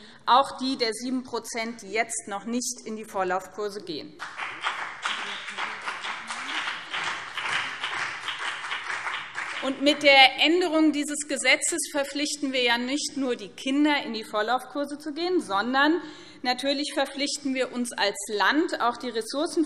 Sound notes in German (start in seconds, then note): 4.2 Beifall BÜNDNIS 90/DIE GRÜNEN und CDU